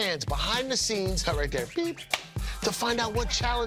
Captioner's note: clapper clacks